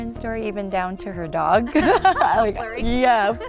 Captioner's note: chuckling